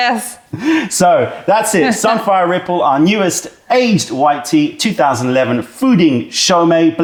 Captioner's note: laughter